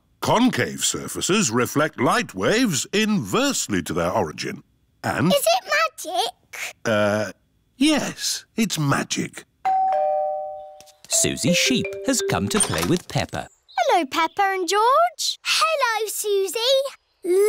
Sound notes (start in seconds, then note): 9.6 doorbell